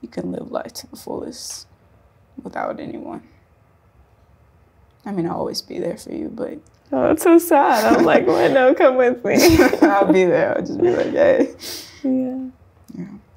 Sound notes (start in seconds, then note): 7.7 laughs; 9.3 both laugh